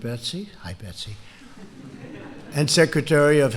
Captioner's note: laughter